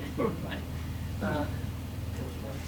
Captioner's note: laughs